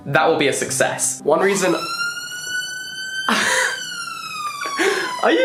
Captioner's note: siren blaring